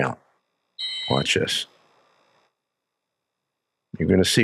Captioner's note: whistle blows